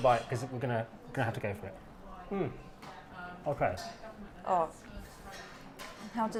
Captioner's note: hmmm and other contented noises